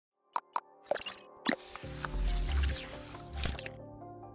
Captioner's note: electronics beeping; gentle music